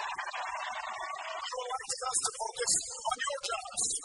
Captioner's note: cheers, applause